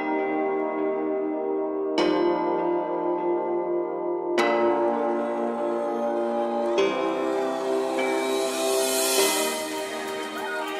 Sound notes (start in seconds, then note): 2.0 bright music; 2.0 cheering